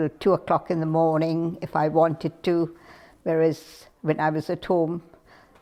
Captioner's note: none